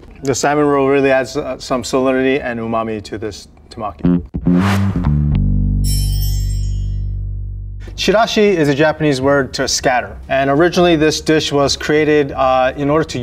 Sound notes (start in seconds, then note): 4.0 jaunty music; 5.8 text chimes